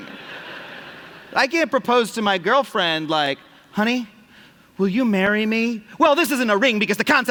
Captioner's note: laughter